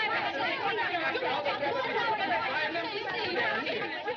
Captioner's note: French